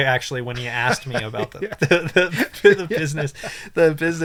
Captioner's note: laughs